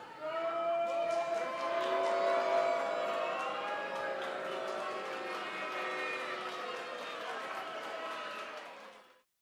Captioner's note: cheers and boos